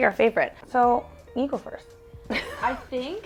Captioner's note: laughs